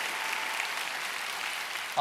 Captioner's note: cheers and applause